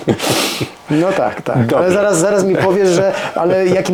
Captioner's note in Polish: parsknięcie; śmiech